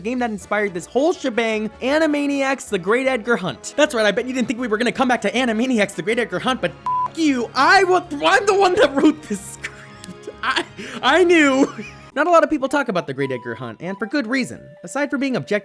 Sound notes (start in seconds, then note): 11.4 laughter